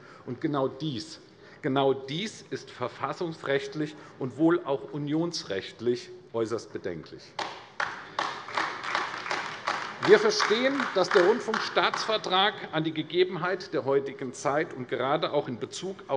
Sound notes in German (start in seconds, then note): 7.4 Beifall AfD